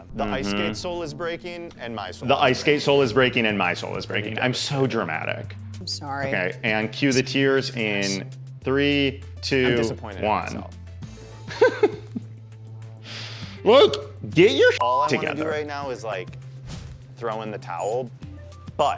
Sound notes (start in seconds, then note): 11.5 laughing; 14.8 beep